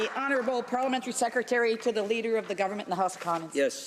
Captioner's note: applause